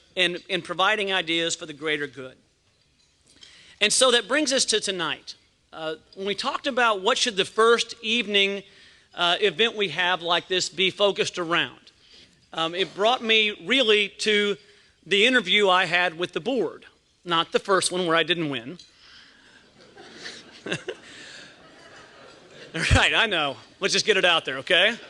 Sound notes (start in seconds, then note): 19.7 laughs